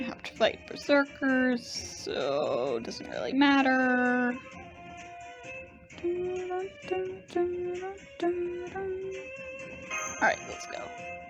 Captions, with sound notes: Gonna have to fight Berserkers, so it doesn't really matter… (humming) Alright, let's go.